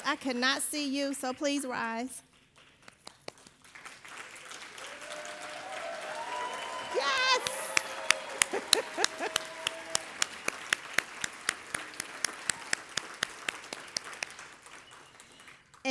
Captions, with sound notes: I cannot see you, so please rise. (audience applauding and cheering) Yes. (chuckles) (everybody applauding and cheering)